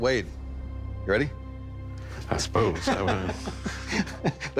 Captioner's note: laughing; laughs